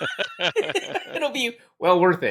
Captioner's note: laughing